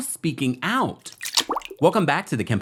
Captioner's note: water drips